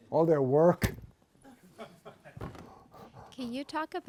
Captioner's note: laughs